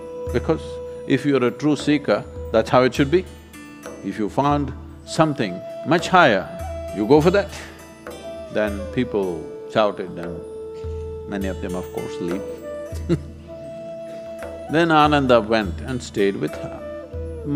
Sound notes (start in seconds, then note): 13.0 laughs